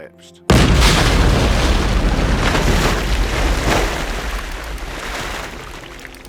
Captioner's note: stones rumbling and collapsing